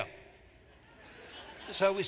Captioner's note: laughter